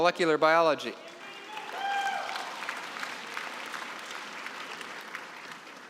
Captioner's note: cheering and applause